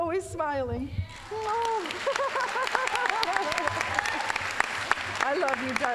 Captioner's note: applause